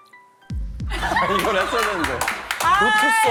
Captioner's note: frustrated